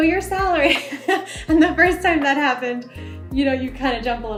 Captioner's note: laughs